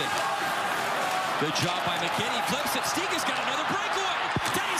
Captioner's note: cheering